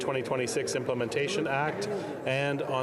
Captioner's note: speaking French